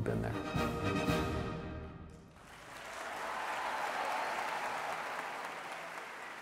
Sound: audience applauds

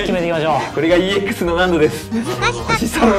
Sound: laughs

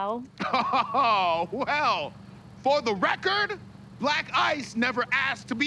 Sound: chuckles sarcastically

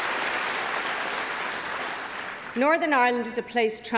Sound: cheering & Applause

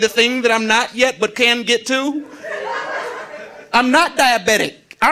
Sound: audience laughing

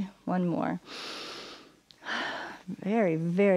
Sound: inhales and exhales

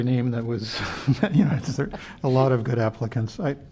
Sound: laughter

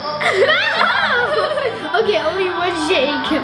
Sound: laughing

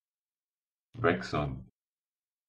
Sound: fast Pronunciation

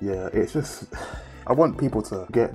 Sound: sighs

